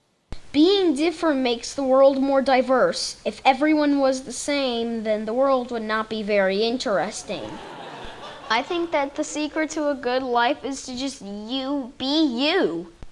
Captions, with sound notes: Being different makes the world more diverse. If everyone was the same, then the world would not be very interesting. (audience laughing) I think that the secret to a good life is to just you be you.